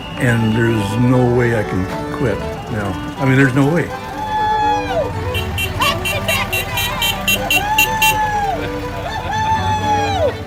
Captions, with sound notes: And there’s no way I can quit. … There’s no way. (Cheering) Happy Tractor Days! (Honking)